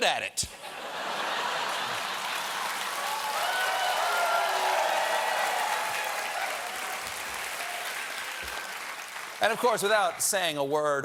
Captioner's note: cheers and applause